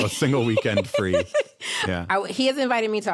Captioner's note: laughs